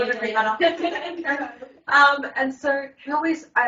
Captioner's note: everyone laughs